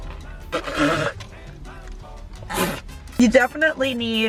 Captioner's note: spitting